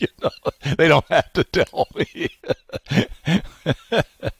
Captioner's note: laughs